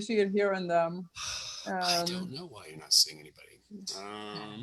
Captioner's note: sighs